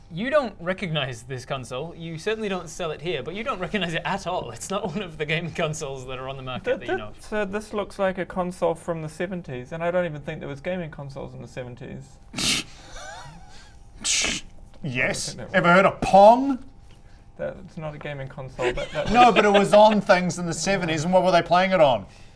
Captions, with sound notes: you don't recognise this console, you certainly don't sell it here but you don't recognise it at all it's not one of the game consoles that are on the market that you know of Sir this looks like a console from the 70's and I don't even think there was gaming consoles in the 70's *TSCCH!* *TCSCCHH* - Yes - I don't think there was ever heard of Pong? That's not a gaming console but No but it was on things in the 70's and what were they playing in on?